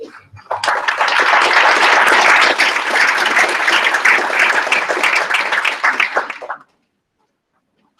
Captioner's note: applause